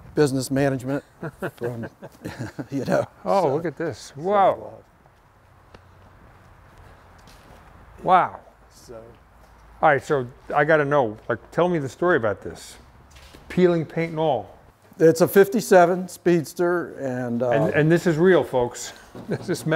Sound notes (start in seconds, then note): 0.9 laughing; 19.1 laughs